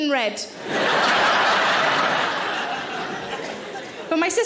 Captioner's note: audience laughing